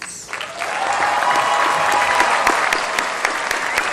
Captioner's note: applause